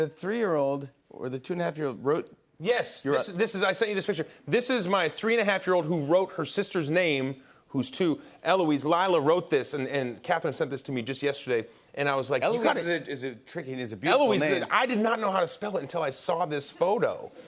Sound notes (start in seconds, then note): none